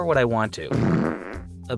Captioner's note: fart noise